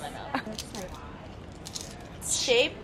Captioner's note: crunching